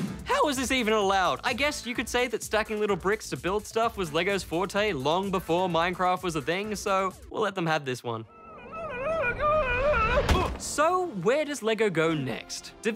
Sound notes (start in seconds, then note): 8.3 screams; 10.3 grunts